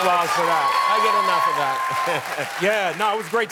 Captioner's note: applause; laughing